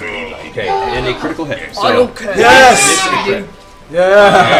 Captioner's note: cheering